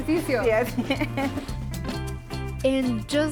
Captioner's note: laughs